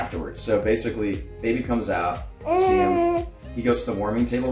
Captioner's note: cooing